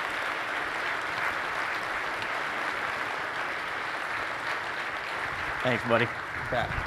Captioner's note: applause